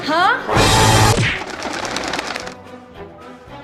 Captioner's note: punch; birds flock